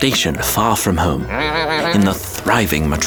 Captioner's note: Julius growling